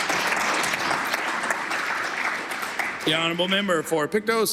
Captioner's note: applause